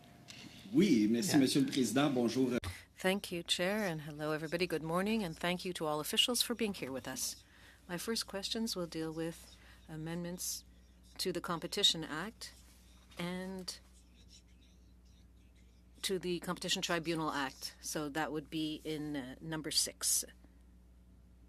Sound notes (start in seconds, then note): 5.2 speaking French